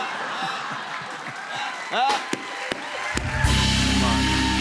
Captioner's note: laughter; cheers and applause